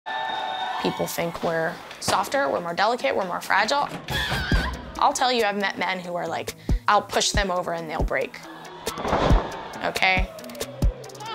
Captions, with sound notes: [crowd cheers] - People think we're softer, we're more delicate, we're more fragile. [yells] I'll tell you, I've met men who are like- I'll push them over, and they'll break. Ok?